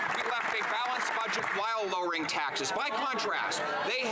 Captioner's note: some Applause